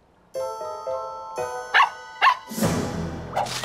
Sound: barking

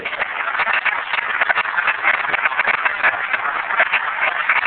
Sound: applause

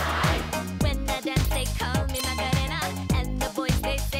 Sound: in English

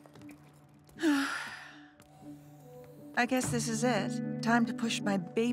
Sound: sighing

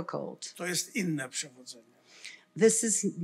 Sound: foreign language

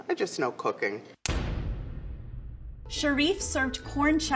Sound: pounding

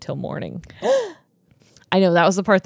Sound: gasps

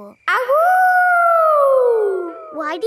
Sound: howling

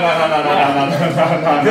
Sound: slurring

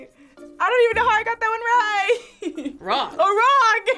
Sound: laughs

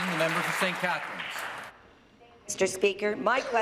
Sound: applause

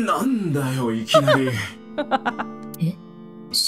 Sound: chuckles

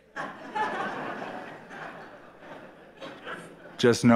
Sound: laughter

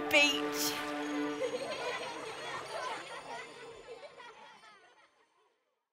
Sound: children laughing

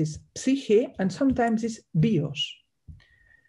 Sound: speaks in Greek

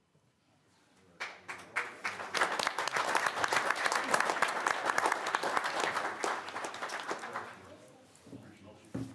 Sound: applause

